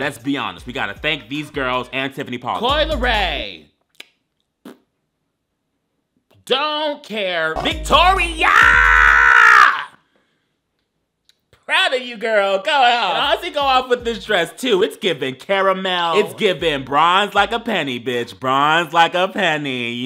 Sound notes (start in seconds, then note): 3.8 smacking tongue; 4.6 blowing raspberry